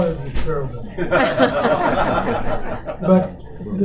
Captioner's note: laughter